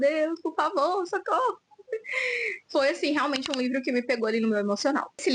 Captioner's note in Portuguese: suspirando; risadas